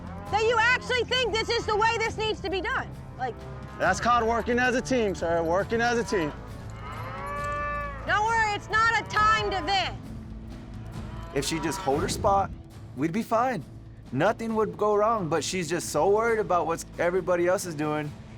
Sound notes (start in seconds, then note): 5.8 cows moo